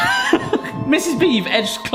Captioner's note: laughing